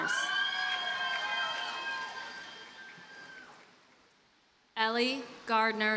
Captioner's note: audience cheers and applauds